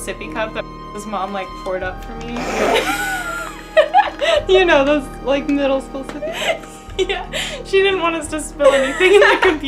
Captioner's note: laughing